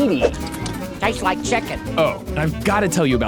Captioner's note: lips smacking